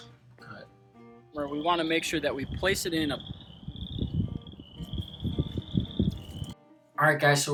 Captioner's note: frog calls